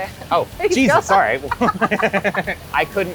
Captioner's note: laughter